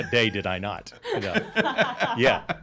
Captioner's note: laughing